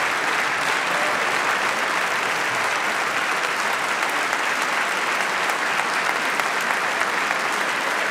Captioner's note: applause